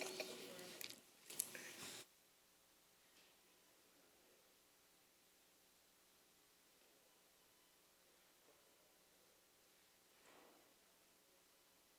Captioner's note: laughter